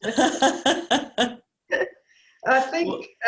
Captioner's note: laughing